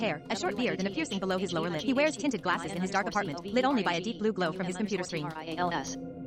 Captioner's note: text-to-speech Screen Reader reads code aloud